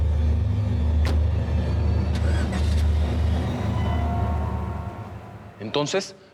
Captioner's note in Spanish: portazo